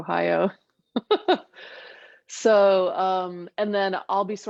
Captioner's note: laughs